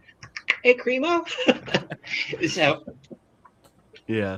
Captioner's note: laughs